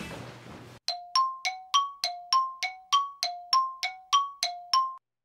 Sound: beeps

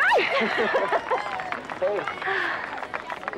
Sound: both laughing

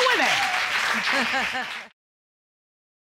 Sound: chuckling

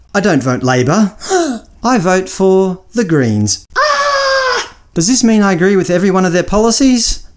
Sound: audible gasp; scream

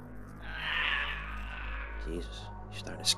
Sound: bartender groaning; bartender shrieking

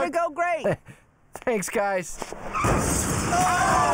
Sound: chuckles; brakes screeching

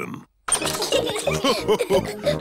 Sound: all laugh

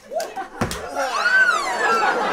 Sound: clapping; whiny baby cries

